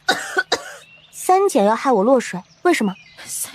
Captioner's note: coughs